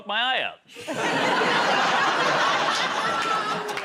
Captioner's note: laughter